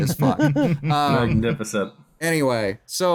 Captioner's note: laughter